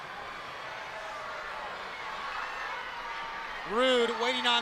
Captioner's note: crowd cheering